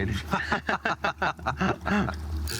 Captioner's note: laughs